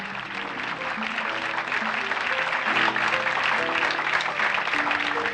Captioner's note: audience clapping